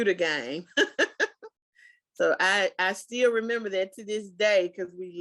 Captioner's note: laughs